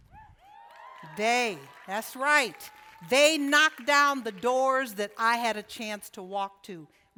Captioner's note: cheering